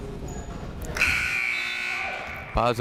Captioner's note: buzzer blares